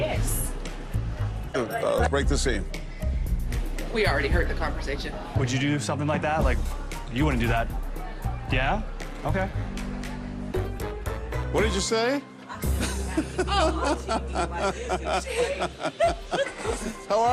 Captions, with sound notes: So you're having a conversation about it now? Yes. Break the scene. We already heard the conversation. Would you do something like that? Like, you wouldn't do that. Yeah? Okay. What did you say? [ Laughs ] Oh. [ Laughs ]